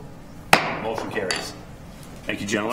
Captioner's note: gavel striking sound block